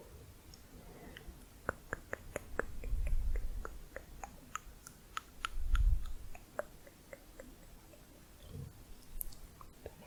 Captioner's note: tongue clicking